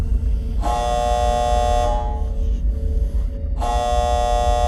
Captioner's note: alarm buzzing